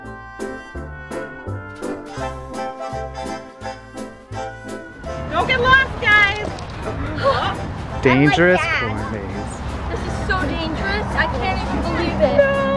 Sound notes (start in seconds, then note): 0.2 goofy music; 7.0 gasps